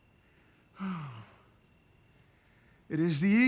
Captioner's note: sighs